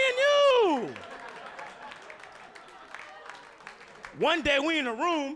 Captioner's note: audience laughing